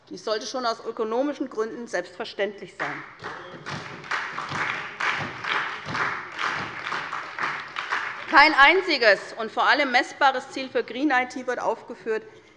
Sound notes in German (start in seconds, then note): 2.8 Beifall bei der SPD